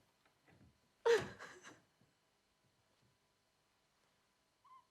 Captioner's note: Betty crying